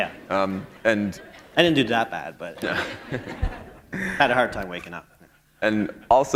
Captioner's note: laughter